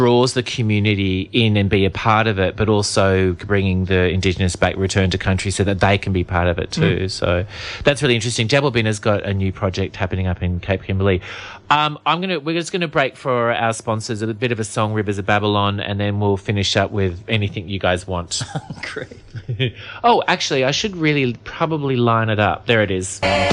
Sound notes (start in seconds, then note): 18.4 laughs